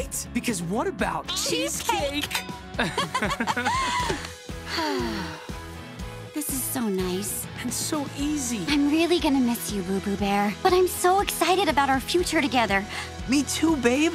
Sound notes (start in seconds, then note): 2.8 laughing; 4.6 sighing